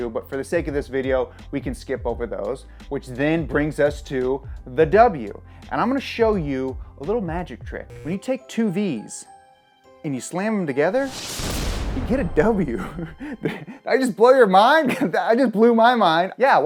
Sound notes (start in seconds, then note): 10.9 swoosh; 12.7 chuckles